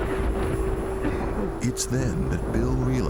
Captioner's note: thunder booming; coughing loudly